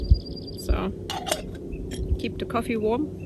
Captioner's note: sound of a bird chirping; sound of closing the lid